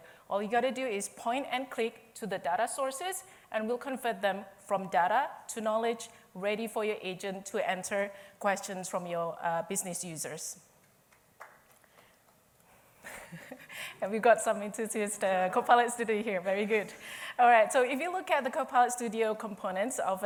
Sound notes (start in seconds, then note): 11.1 applause